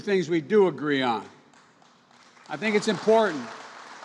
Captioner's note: applause